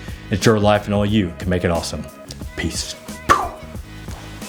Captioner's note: mouth pops